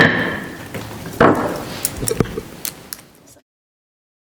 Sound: gavel tapping

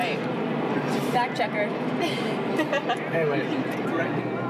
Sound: laughs

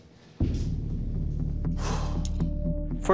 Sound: sigh

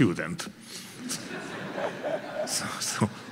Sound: audience laughing

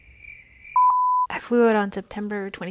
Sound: crickets chirping; beep

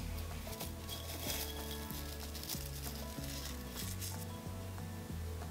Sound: flower petals crackle

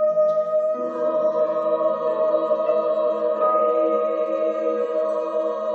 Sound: choir speaks in foreign language

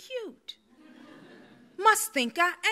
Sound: audience laughs

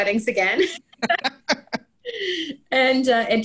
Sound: everyone laughing

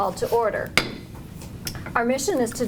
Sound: gavel banging

